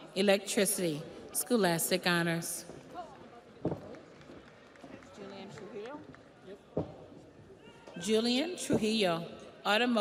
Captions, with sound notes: Connor Hell, Electricity, Scholastic Honors. (audience applauds)